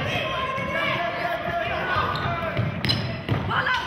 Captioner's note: yelling